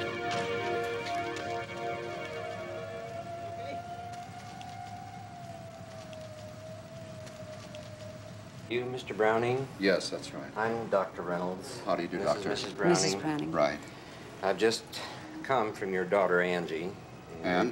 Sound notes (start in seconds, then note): 1.1 siren wails